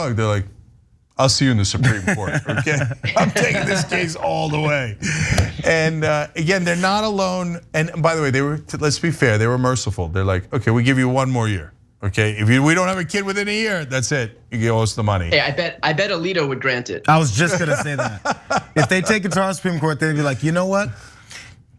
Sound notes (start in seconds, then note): 17.2 laugh